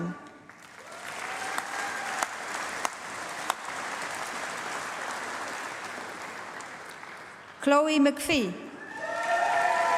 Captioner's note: applause